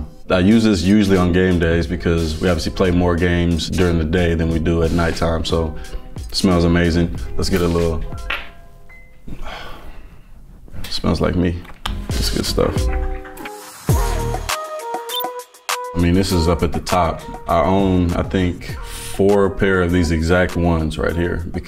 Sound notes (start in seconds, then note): 9.3 Davante sighing; 13.4 upbeat music